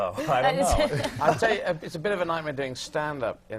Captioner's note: laughs